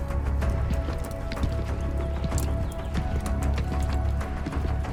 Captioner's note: footsteps thudding